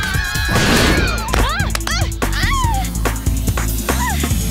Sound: all scream

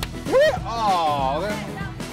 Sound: tiny confetti bursts disappointingly

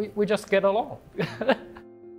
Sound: chuckles

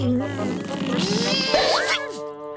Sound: groaning

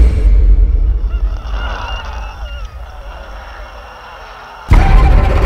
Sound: dramatic music; Regan groans; ominous music

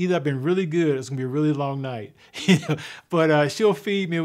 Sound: chuckles

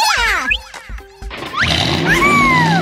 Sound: engine starting

